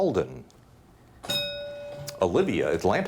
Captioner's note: bell dings